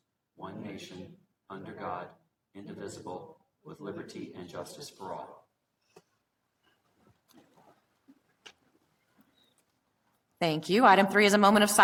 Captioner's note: reciting pledge of allegiance